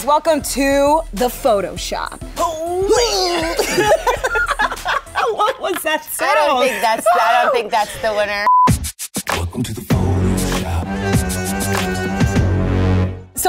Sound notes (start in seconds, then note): 2.5 grunting; 3.0 laughing